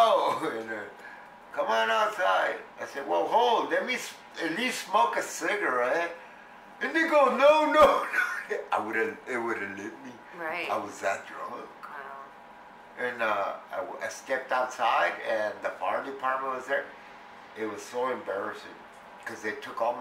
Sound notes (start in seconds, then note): 7.9 laughs